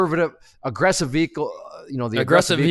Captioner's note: stutters